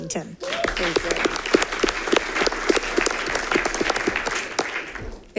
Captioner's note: audience applauding